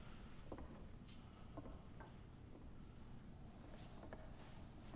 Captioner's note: footsteps clicking